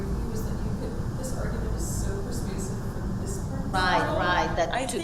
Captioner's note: speaking away from microphone